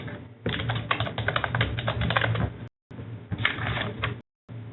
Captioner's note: typing